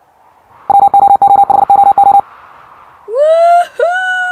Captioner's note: robot beeping